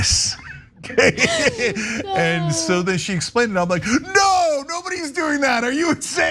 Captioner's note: laugh